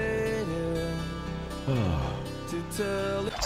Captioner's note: sigh of relief